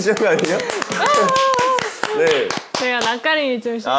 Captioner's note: sudden applause